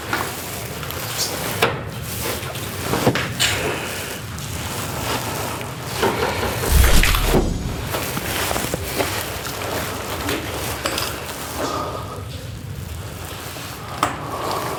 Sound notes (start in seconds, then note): 6.6 sound of energy barrier crossing